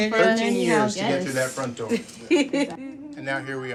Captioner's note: chuckling